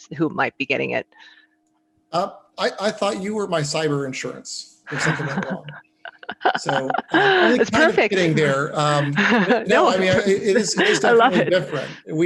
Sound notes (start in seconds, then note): 6.0 laughs; 8.9 laughing